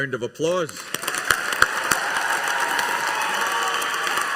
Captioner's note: audience applauding